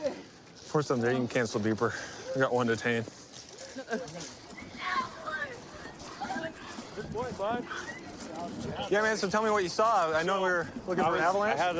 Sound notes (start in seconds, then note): 4.8 yelling